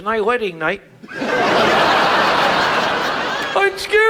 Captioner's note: audience laughs